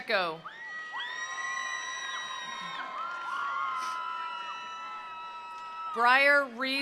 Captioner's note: attendees cheering; attendees applauding